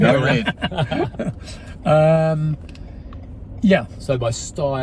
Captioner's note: men chuckling